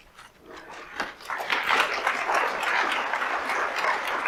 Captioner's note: audience applauds